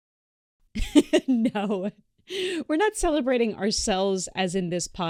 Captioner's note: laughs